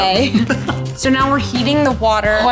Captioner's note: laughs